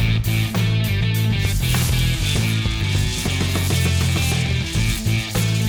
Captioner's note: feet thud; sword crackling